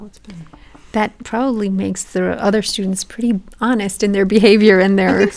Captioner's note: laugh